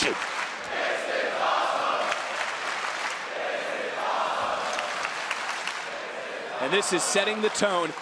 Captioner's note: crowd chants "this is awesome"